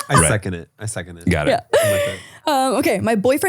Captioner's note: laughing